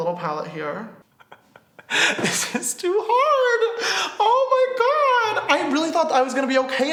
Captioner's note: laughs